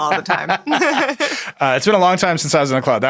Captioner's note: laughs